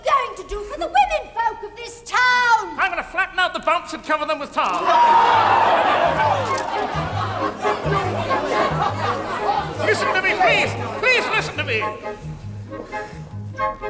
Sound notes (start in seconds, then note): 4.7 crowd roaring; 5.7 fast whimsical music